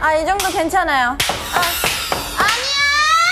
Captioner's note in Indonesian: Buk Buk Buk